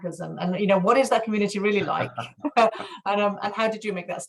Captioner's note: laughs